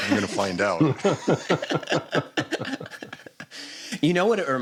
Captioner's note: laughter